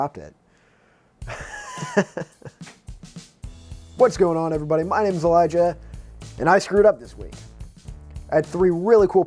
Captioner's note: nervous laughter